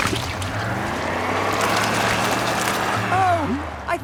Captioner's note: sloshing, tires whirring